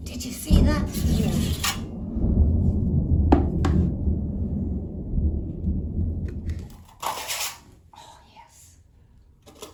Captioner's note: thunder